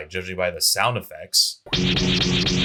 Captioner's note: Clip of recorded message activating with Lightsaber sound effects